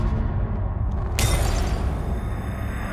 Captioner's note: glass shatters